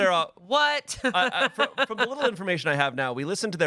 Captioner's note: laughs